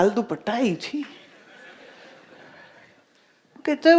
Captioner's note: audience laughs